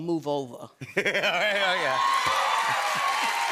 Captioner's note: laughs; cheers and applause